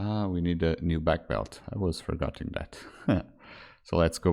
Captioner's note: chuckles